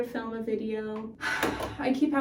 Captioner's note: sighing